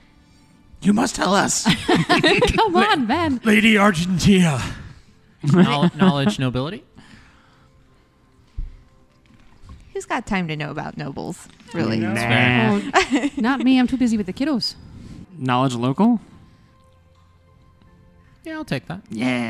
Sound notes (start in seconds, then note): 1.6 laughter; 5.4 laughs